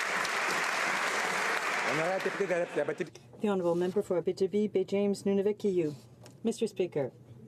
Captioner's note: some Applause